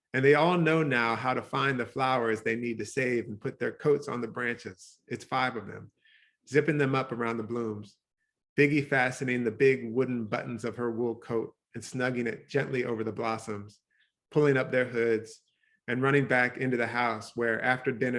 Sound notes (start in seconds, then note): none